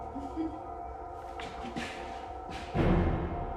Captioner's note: woman chuckles; dramatic music